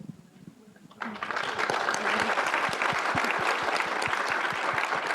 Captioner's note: audience applause